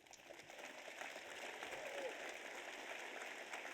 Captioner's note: audience applauds